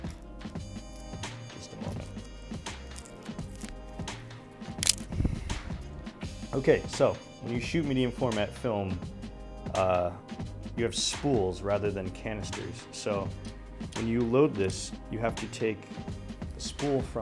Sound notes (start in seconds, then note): 4.8 camera shutter clicks